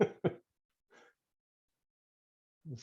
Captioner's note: laughs